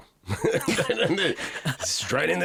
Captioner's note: both laugh